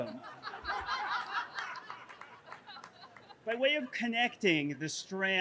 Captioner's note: everyone laughing